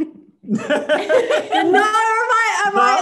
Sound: laughs

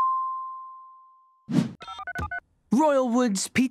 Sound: phone dialing

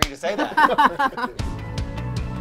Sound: laughs; bright upbeat music

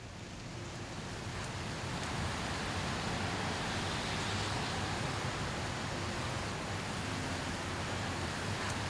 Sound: rain

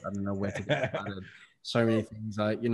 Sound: all laughing

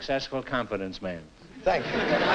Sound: laughter

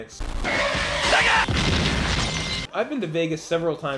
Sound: crashing

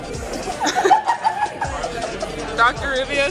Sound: laughter

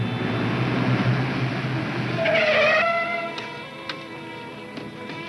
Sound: tires squealing

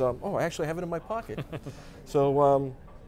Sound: chuckles

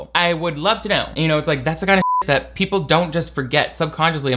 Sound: beep

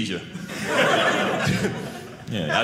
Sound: audience laughing

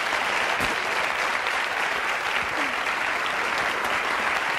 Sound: audience applauding

